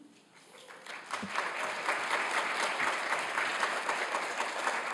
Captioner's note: crowd applauding